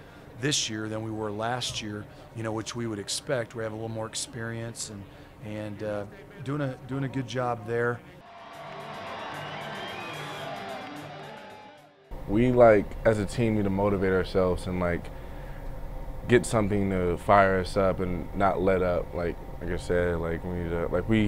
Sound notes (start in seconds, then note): 8.2 cheering